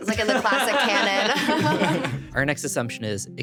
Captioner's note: laughing; everyone laughing